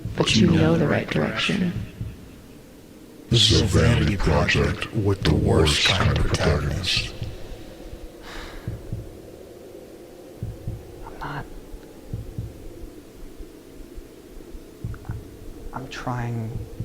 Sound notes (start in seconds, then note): 8.2 sighs; 8.4 muffled wind howls